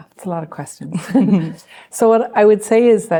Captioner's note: chuckles